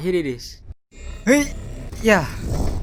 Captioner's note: jumping_sound-effect.wav